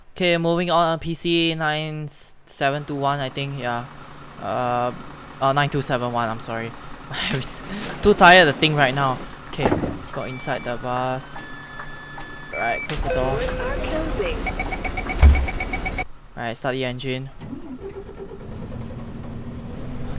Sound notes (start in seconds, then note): 12.0 chime plays; 18.9 vrvrvrvr vRooM